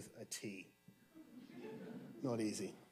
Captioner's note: audience chuckling